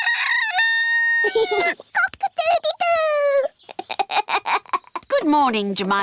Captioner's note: neville crows; laughs; giggles